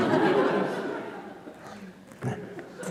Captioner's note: laughter